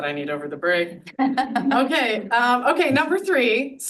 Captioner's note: audience laughs